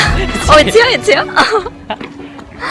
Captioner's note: laughs